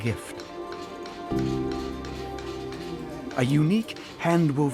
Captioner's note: hammer thwacking